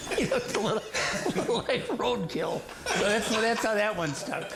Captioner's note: laughing